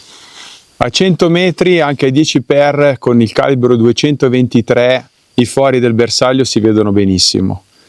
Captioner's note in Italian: sbuffare